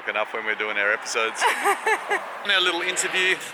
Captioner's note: laughing